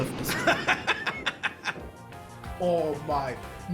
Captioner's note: laughs